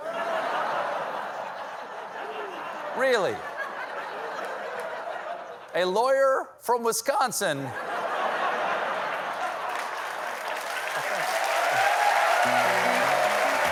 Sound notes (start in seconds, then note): 0.0 laughter; 9.4 cheers and applause